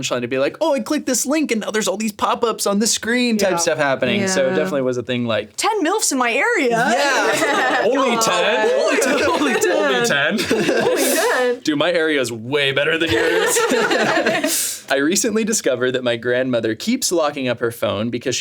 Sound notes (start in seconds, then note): 6.7 all laughing; 13.0 all laughing